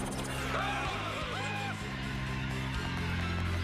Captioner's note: panicked screaming